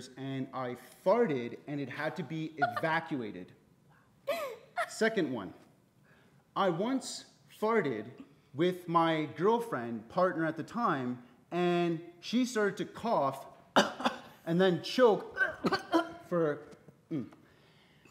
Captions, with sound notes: and I farted and it had to be evacuated. Second one. I once farted with my girlfriend partner at the time and she started to cough (coughs) and then choke (imitates person choking) for...